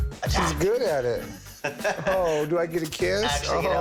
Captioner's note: laughs